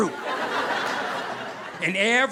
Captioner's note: audience laughing